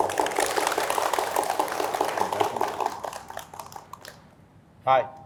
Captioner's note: applause